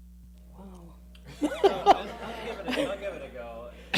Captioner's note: laughing